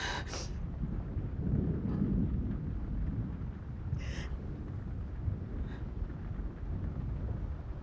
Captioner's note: thunder